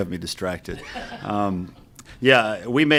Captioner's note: audience laughs